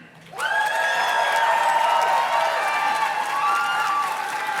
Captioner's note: audience cheers and claps